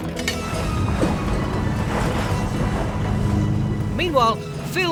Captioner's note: cheerful music; waves crashing